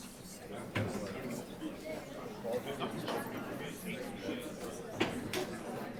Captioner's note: indistinct chatter